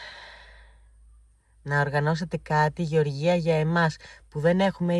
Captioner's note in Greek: αναστενάζει